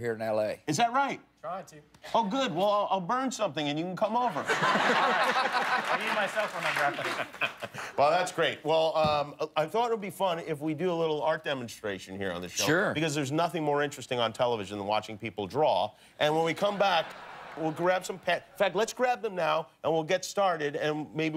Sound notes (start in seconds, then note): 7.8 laughter